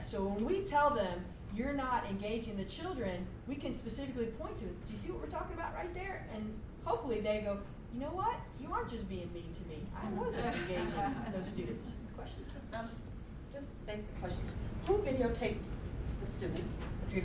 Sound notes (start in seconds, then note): 10.2 laughter; 13.2 voiceover